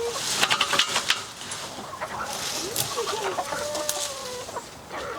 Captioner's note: woman talking to chickens